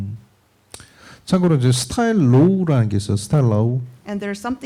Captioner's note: speaking korean